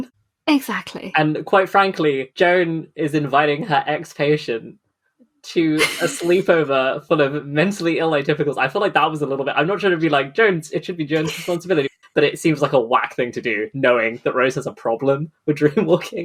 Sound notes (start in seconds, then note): 5.6 laughs; 13.4 laughing